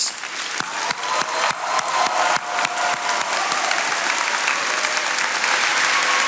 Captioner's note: attendees cheering and applauding